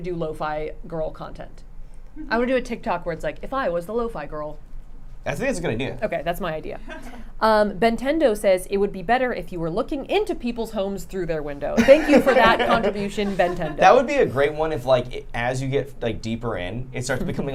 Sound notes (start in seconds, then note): 6.8 laughing; 11.7 group laughing